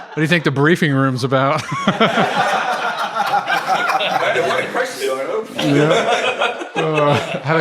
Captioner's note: laughter and chatter